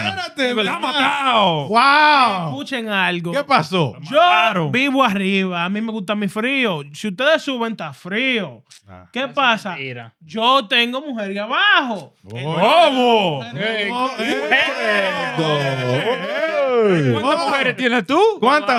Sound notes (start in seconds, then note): 0.0 speaking Spanish; 3.9 speaking Spanish; 15.1 cheering; 15.1 speaking Spanish